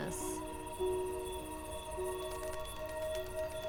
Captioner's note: crickets chirp